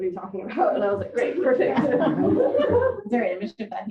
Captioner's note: audience laughter